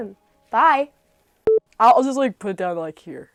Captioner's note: beep